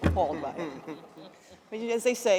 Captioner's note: laughter